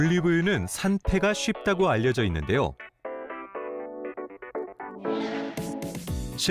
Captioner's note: voiceover